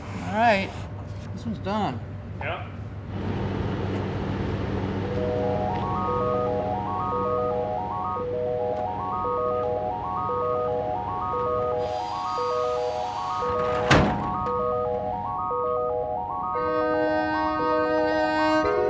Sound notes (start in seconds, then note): 5.0 instrumental music; 11.9 saw buzz; 13.7 truck door clanks; 14.1 instrumental music continues